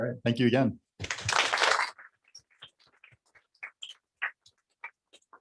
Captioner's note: applause